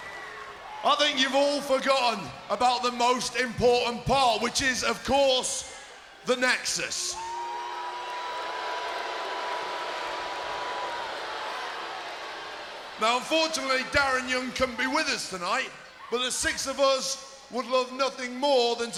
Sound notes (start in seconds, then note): 7.0 crowd booing